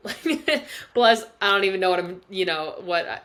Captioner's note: laughs